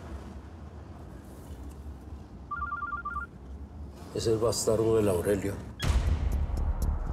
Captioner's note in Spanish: Suena un celular